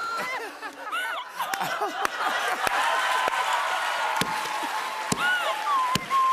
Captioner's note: laughter, cheers, applause